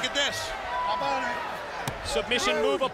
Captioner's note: crowd chatter